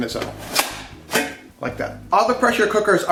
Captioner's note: lid clicks